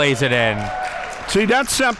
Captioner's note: spectators applauding